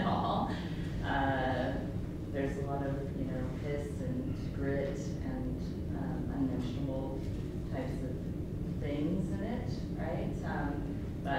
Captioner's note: laughs